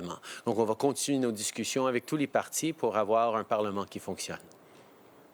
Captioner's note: speaking French